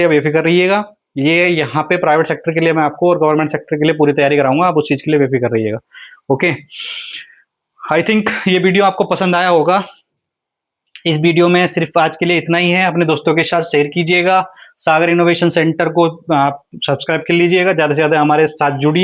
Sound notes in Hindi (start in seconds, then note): 7.0 नाक से की जाने वाली आवाज़